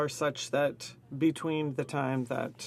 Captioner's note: speaking in French